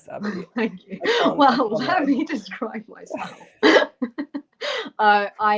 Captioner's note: laughter